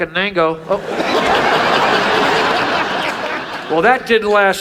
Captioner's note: audience laughs